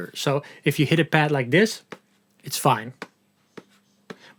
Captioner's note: slow tapping